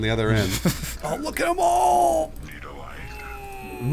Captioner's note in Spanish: Ghmmm